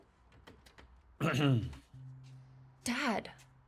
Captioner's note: clears throat